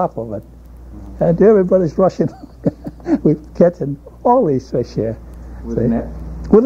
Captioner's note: laughs